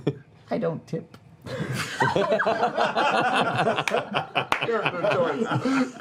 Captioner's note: laughter